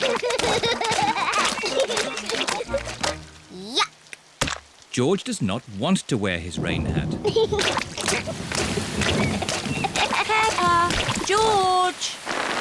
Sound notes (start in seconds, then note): 0.0 both giggling; 6.4 thunder rumbling; 7.4 giggling